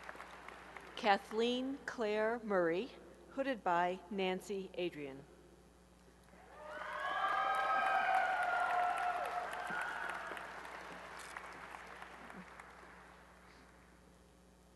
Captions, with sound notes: Kathleen Claire Murray, hooded by Nancy Adrian. [applause and cheering]